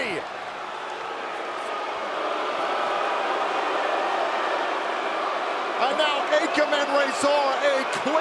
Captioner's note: crowd cheering